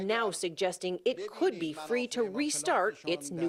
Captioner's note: speaking a foreign language